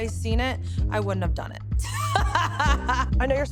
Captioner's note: laughs